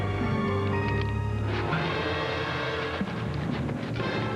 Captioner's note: twig snaps